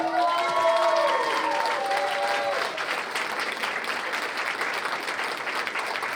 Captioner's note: cheers and applause